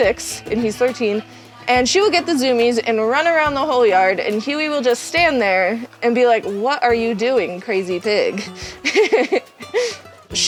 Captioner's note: giggles